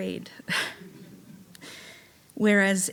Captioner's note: chuckling; audience laughing